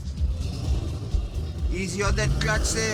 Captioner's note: car revs noisily